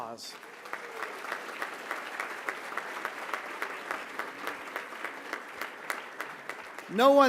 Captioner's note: applause